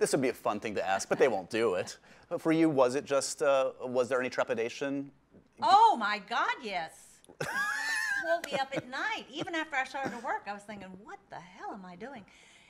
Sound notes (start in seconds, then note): 7.4 laughing